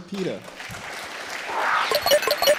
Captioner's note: applause